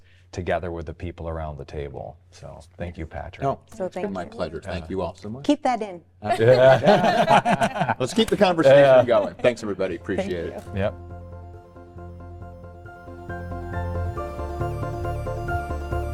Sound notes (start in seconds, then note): 6.3 all laugh; 10.7 soft music